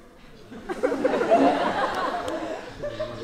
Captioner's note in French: rires